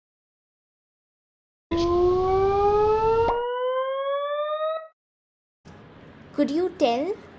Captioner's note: high pitch sound changing to a low pitch sound; low pitch sound changing to a high pitch sound